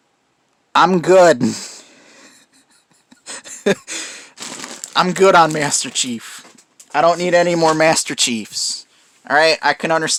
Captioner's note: laughing